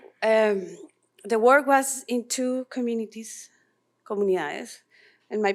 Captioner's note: non-english speech